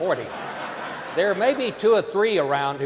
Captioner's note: audience laughing